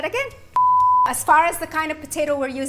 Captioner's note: beep